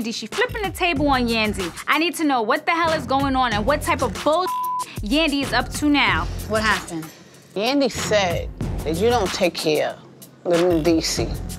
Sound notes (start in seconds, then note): 4.4 beep